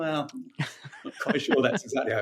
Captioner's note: laughing